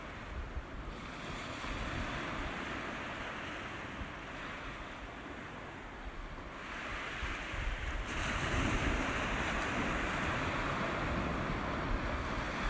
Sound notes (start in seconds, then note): 2.8 sea crashes